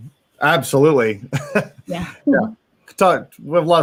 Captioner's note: laughs